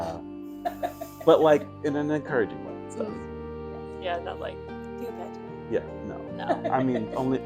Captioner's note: chuckling from the peanut gallery; hoity toity british accent